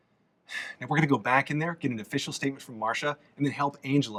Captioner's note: sighs